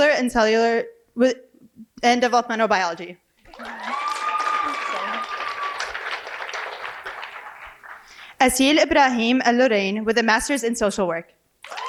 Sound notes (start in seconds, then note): 3.4 cheering and applause